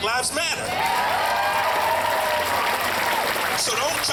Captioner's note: crowd cheering